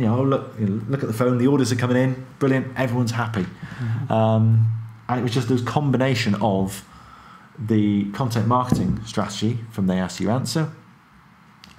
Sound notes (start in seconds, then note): none